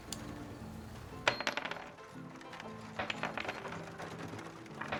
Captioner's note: bullets clattering